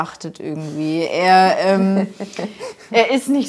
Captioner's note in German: Lachen